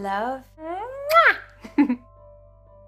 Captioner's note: lips smack; giggles